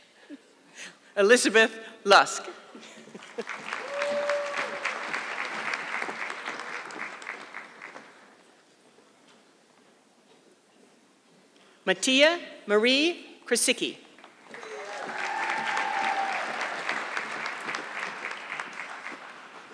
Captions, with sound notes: Elizabeth Lusk. (audience clapping) Matea Marie Krisiki. (audience clapping)